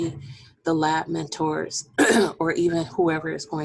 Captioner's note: clearing voice